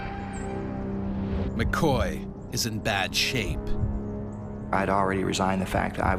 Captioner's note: voiceover